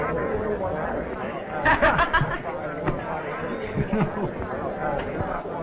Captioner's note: laughter